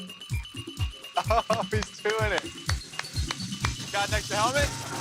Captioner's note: man claps